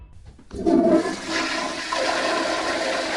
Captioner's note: toilet Flush